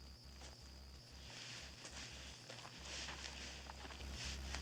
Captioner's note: approaching footsteps